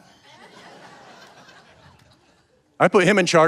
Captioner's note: audience laughing